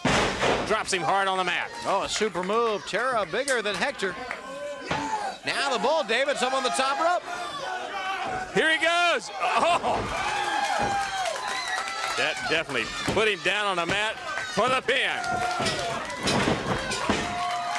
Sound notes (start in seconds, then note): 9.6 crowd chatter; 14.9 crowd cheering